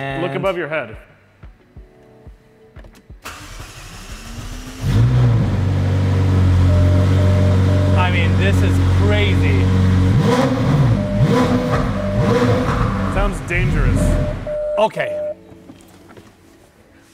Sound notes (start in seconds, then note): 3.9 engine roars; 10.6 car revs